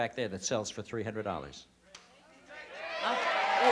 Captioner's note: audience yelling